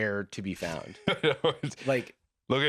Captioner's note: laughing